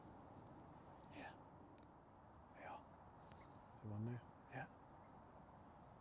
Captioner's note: whispering